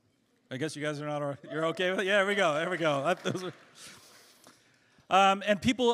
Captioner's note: cheers